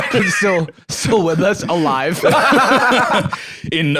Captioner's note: laughs; laughs